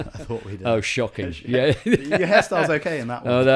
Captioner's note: laughs